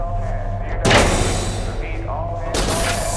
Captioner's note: hatch slams closed